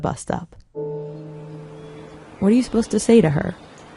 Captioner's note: swelling nature sounds